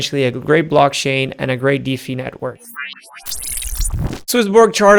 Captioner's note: electric whooshing